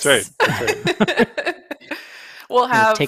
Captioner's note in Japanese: 笑い